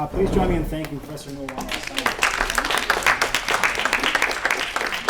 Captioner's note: applause